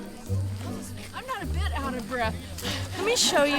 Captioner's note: sarcastically